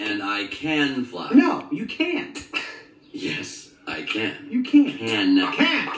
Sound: sighs

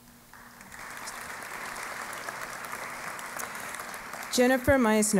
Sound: applause

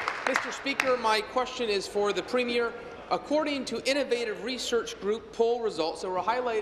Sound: applause

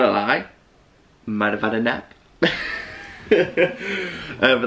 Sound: laughing

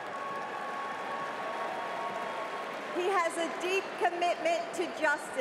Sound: applause

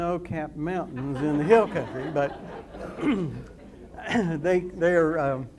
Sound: audience laughs

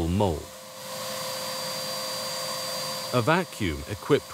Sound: vacuum cleaner whirring continues

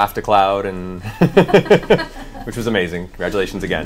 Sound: all laugh

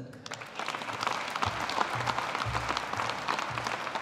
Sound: audience applauding

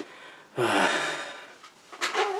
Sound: sigh

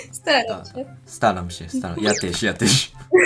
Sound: Polish

